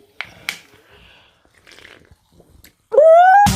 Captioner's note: slurping